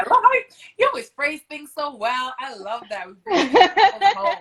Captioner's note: laughs